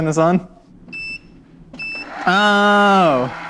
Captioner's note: beeps